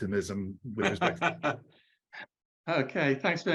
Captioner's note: laughs